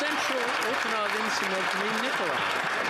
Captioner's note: some Applause